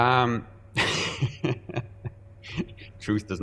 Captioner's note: laughing